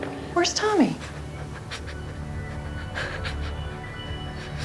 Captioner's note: breathing shakily